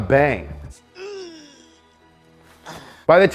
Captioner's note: groans